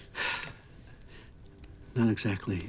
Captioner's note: sighs